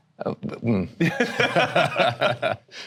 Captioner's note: laughter